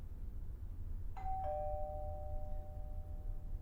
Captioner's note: doorbell rings